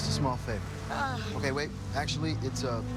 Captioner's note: groans